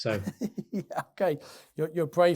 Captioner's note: laughing